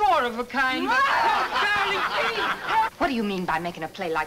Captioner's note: angry wife shouts